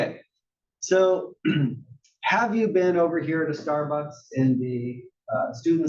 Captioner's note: cough